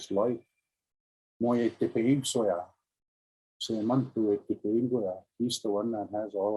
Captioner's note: speaking in Indigenous language